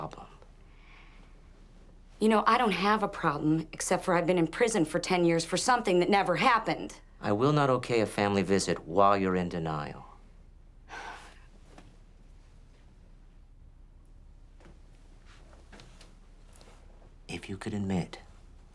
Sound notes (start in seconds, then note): 10.9 sighs